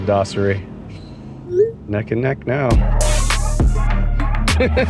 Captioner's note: chuckles; cell phone chimes; chuckles